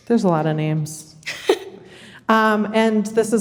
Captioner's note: chuckles